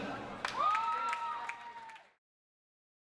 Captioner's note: audience applauds